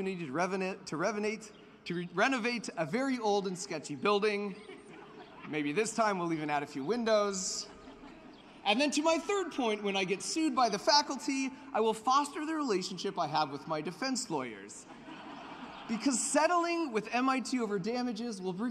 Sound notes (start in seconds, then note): 4.4 laughter; 7.4 laughter; 14.8 laughter